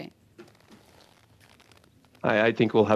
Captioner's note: speaking french